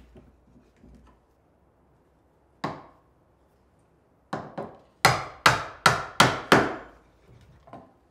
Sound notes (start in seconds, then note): 5.0 hammer banging